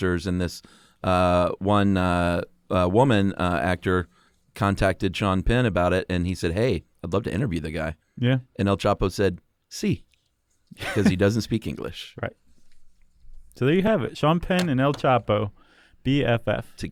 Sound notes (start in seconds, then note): 10.7 laughs